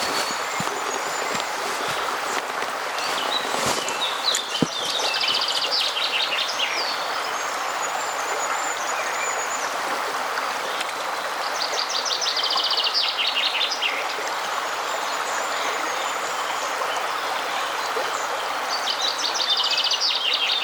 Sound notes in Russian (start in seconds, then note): 1.7 шум реки; 2.9 пение птиц